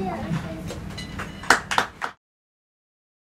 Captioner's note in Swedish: Applåder